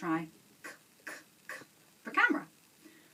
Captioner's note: making cuh sound